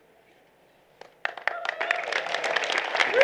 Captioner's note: applause